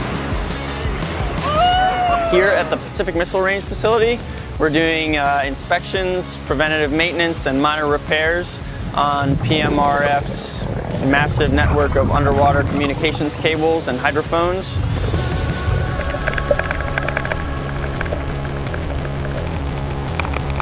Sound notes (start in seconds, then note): 1.2 divers whoop; 17.3 rock music playing